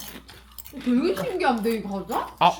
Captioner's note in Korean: 냠냠